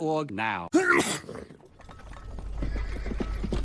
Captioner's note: sneeze; hooves approaching